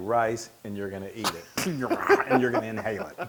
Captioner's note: laugh